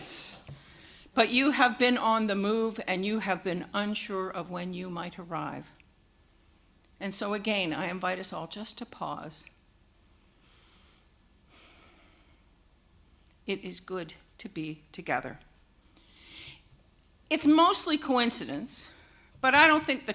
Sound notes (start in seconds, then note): 11.4 breathes in and out, deeply